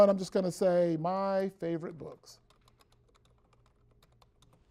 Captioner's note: typing on keyboard